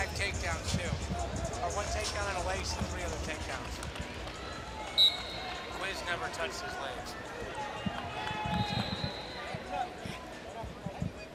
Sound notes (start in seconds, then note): 4.1 crowd cheering; 4.9 whistle blows; 8.5 crowd cheering